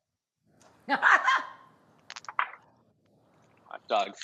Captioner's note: laughs